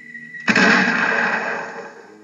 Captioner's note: thud